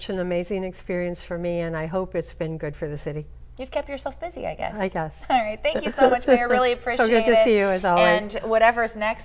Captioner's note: laughter